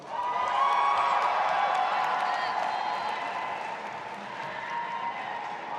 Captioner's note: audience applauding and cheering